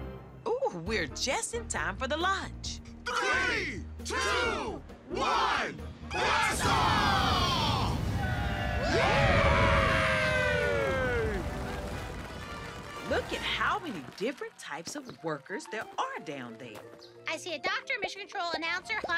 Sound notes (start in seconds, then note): 2.8 crowd; 7.8 cheers